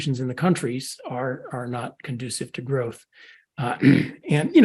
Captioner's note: cough